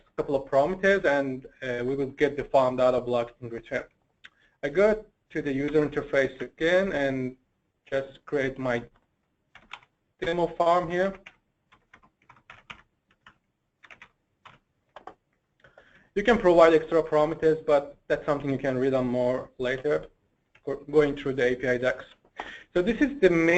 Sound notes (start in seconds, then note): 11.7 typing